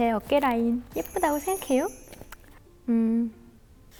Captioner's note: sassy